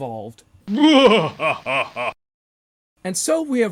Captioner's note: evil laugh sound